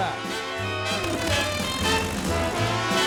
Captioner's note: engine revving